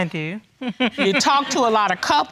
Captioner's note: chuckles